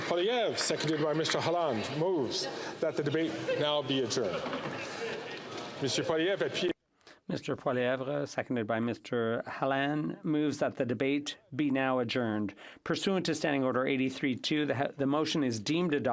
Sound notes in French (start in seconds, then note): 3.8 voix de l'interprète